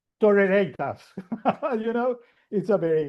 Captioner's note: laughs